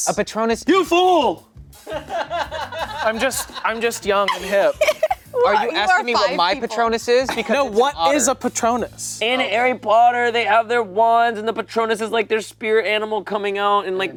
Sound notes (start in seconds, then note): 1.9 laughing